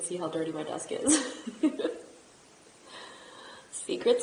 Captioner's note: laughs